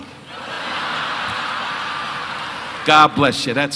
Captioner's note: audience laughing